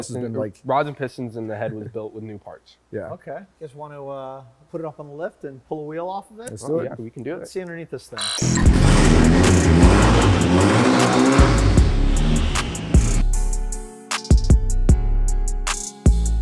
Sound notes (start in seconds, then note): 8.4 car engine roaring; 13.5 hip hop music